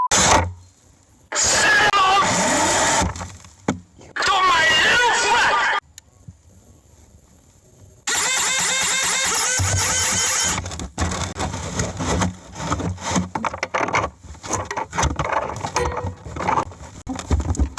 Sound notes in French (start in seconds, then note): 2.9 ventilateur vrombissant; 8.0 la pompe grince; 11.4 microphone frappant la boîte